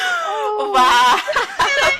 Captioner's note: laughter